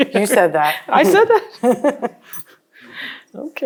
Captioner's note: laughs